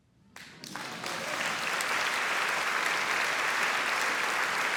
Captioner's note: audience applauding